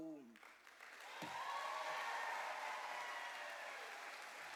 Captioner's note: cheers and applause